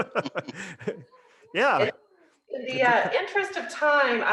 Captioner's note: laughs